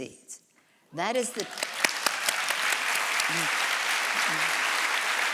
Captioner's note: audience applauds